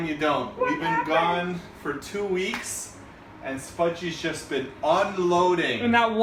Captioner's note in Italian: vocina di Spudgy